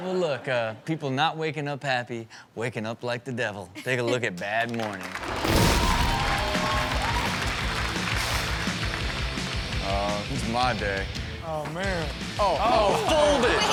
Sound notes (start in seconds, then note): 4.9 audience cheers; 6.4 upbeat music